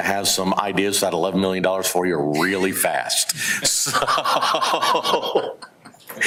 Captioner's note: laughing